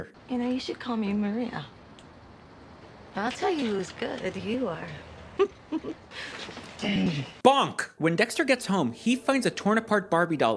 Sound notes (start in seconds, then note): 5.3 giggling; 6.6 Dexter clearing his throat